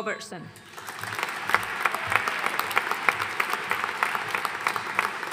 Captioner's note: audience applauding